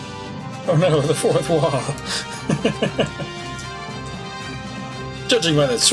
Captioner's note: laughs